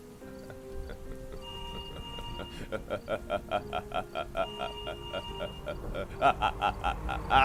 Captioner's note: evil laughing